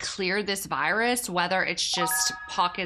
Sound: light beep

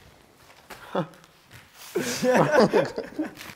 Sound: laughing

